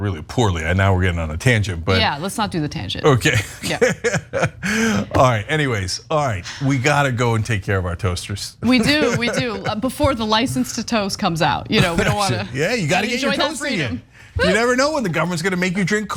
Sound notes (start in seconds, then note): 3.3 laugh; 8.6 laugh; 11.7 laugh